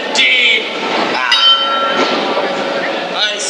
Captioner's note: clock chimes one o'clock